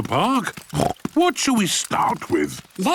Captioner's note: snorts